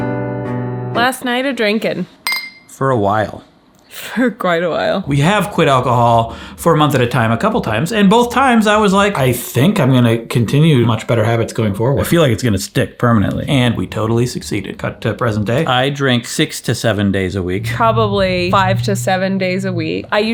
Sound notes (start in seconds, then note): 2.2 glasses clinking